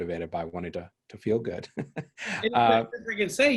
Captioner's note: laughs